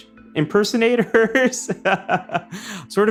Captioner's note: laughs